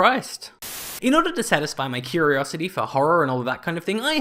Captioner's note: Static